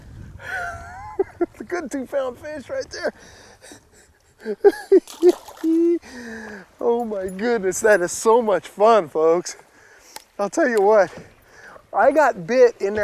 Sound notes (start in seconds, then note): 3.6 laughing